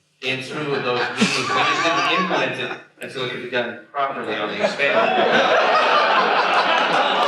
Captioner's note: laughter